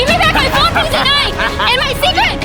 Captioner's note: manic laughing